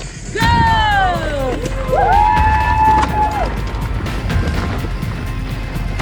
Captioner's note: upbeat music; spectators cheering